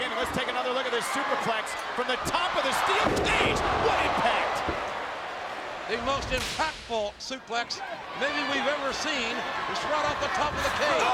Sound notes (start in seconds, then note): 3.5 audience cheering